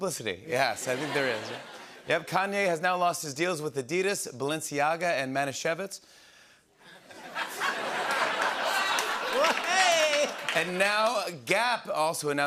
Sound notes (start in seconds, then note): 6.9 laughter